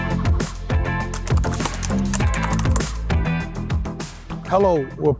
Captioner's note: keyboard keys click